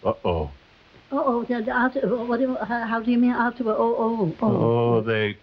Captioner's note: Veta stammering